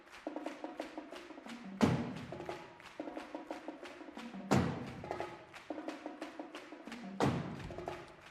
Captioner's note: rhythmic clapping; drumming